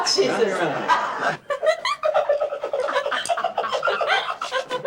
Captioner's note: actors laughing